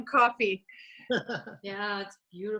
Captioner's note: chuckles